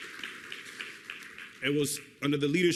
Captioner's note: applause